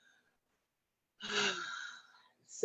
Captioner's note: sighs